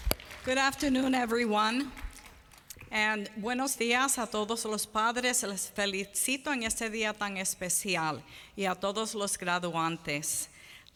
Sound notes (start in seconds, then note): 3.0 foreign Language Spoken